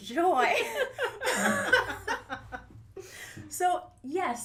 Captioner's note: laughter